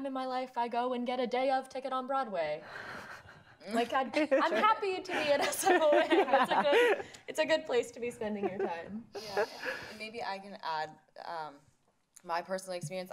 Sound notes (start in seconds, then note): 2.7 laughing